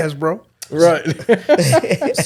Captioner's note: all laughing